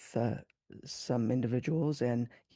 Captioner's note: speaking French